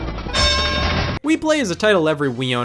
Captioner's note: dramatic rumbling sound; clank